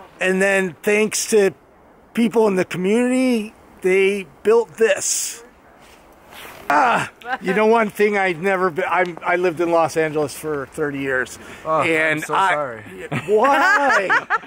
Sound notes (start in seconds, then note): 12.6 laughs